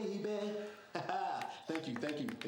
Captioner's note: laughing